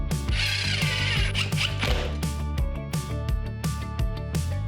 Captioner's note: upbeat music; drilling